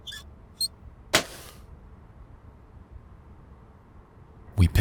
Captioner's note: tape thuds